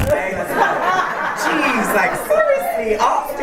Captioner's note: laughter